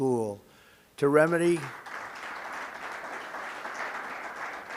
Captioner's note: applause